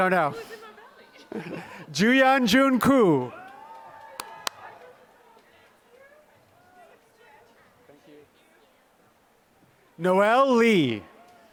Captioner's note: applause